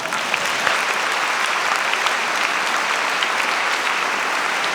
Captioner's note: audience applauding